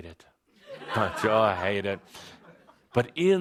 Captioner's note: laughter